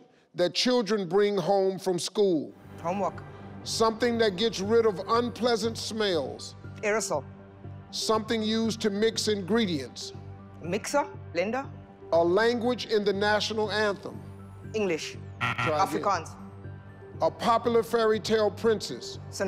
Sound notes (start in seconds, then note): 15.4 incorrect buzzer